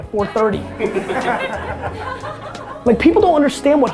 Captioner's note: laughing